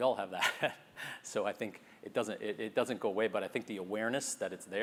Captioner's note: laugh